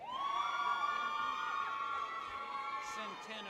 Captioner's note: people cheer